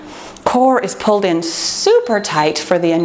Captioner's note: timer beeps